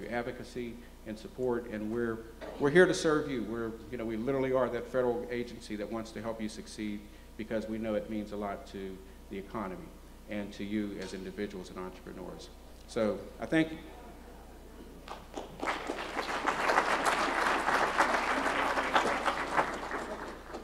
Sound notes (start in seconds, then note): 15.0 applause